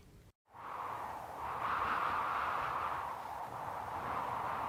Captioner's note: wind blowing